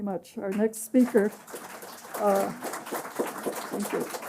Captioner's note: applause